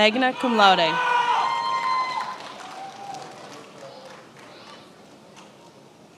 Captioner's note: attendees applauding